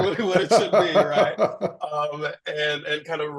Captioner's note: laughs